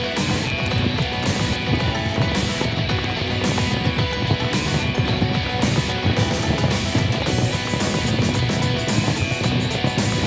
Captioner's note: rapid hoof beats